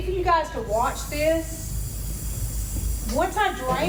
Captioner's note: water spraying